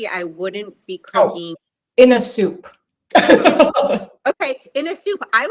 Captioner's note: laughs